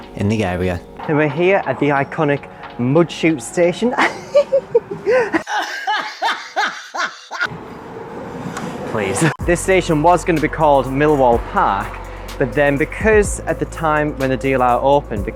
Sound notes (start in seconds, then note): 3.9 real laughing; 3.9 fake laughing